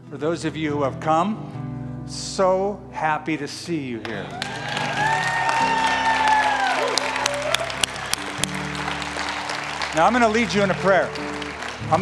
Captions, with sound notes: For those of you who have come, so happy to see you here. [CHEERING] Now I'm going to lead you in a prayer.